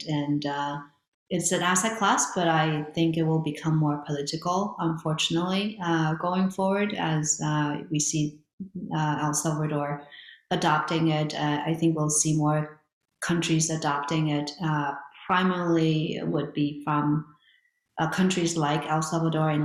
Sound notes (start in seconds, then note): none